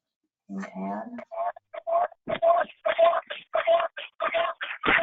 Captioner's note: audio distorting